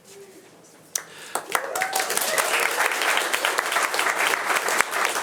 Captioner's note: attendees cheering and applauding